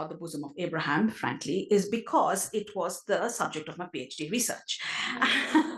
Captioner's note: laugh